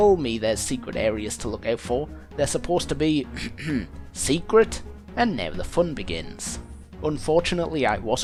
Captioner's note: ahem